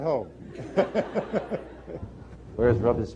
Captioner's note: laughter